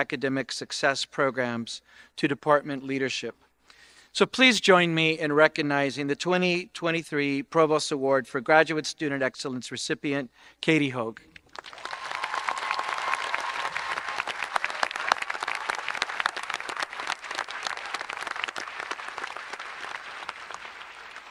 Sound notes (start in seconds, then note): 11.5 audience applauding and cheering